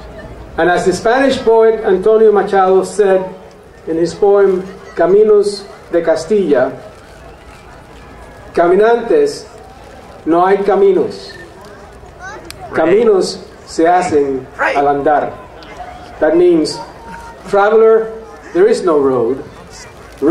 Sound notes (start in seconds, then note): 5.0 speaking in foreign language